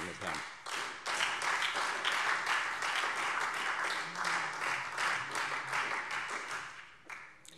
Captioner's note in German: Beifall Freie Demokraten